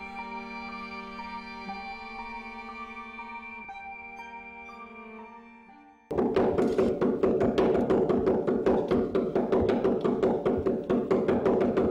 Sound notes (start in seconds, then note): 6.1 knife banging